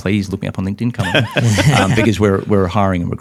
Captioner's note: interviewers laugh